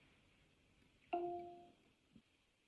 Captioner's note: device chimes